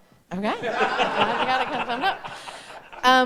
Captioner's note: audience laughing